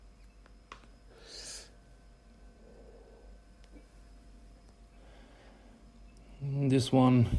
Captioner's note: inhales and exhales smoke